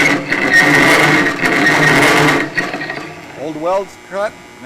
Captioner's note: squealing